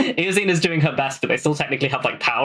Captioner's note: laughing